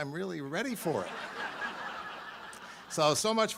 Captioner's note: audience laughs